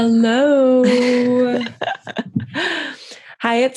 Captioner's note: laughter